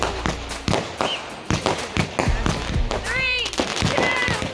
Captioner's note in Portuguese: multidão aplaudindo; fogos de artifício explodindo